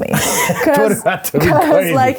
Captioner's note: laughs